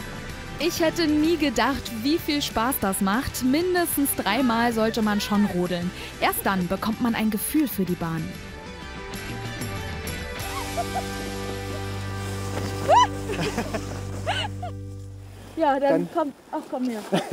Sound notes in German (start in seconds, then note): 12.7 Sie juchzt fröhlich; 12.8 Sie lachen